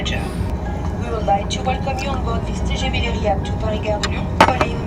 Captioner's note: announcement in English continues